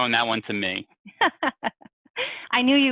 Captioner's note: laughs